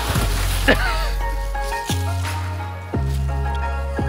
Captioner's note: laughs